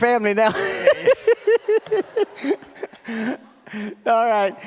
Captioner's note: laughs